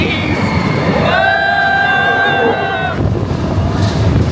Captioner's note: yells